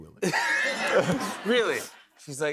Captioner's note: laughter